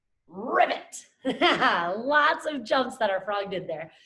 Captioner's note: laughs